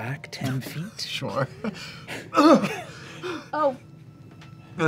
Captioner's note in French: grogne